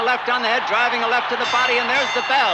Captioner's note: bell dinging